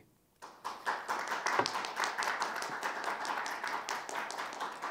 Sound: audience applauds

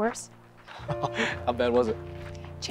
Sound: laughs

